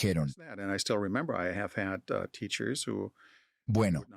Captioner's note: Hablando idioma extranjero